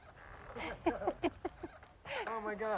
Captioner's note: both chuckle